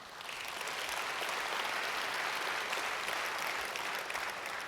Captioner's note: audience applauds